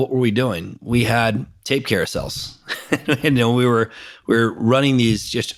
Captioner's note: laughs